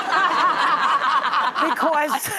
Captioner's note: audience laughing